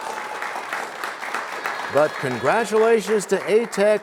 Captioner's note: applause